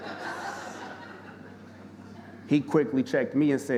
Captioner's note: audience laughing